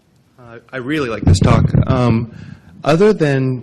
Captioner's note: voiceover